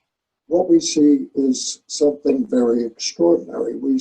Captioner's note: video recording being played